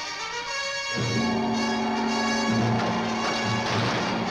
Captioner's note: gong resounds